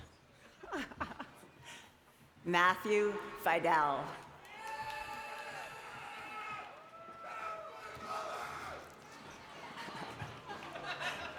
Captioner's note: laughter